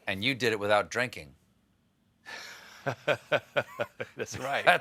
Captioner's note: laughs